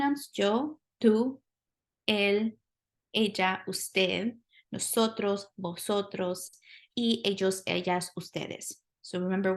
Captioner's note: speaking spanish